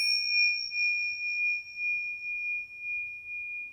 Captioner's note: bell dings